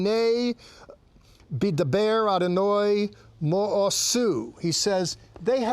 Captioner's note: speaking in Hebrew